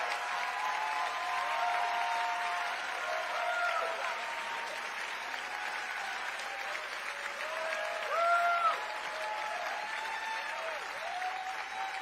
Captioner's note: cheering